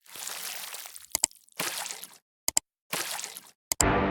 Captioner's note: watery/slosh sound effect; watery/slosh & Click sound effect